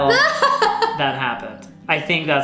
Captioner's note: laughing